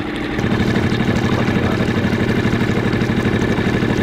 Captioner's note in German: Motor brummt; Flusswasser fließt